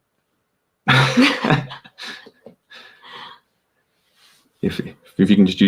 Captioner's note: both laughing